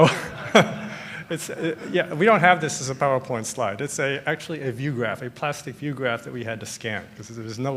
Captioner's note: laughter